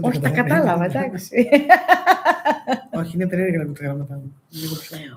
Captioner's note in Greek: γέλια